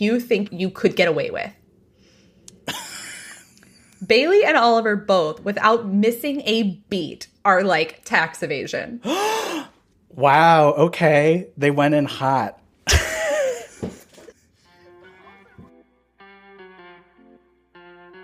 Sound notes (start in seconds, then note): 9.0 gasps